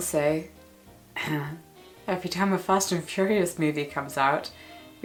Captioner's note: clears throat